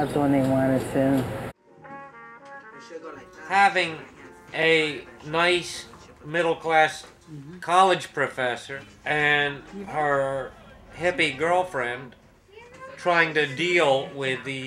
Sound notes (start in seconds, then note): 1.8 saxophone music; 3.9 voiceover